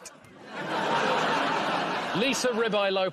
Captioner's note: laughter